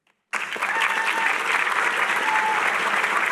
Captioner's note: cheering